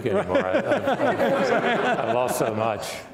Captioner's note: laughing